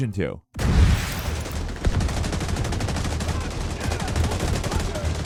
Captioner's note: explosions and gunfire